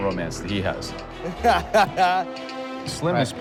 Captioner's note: laughing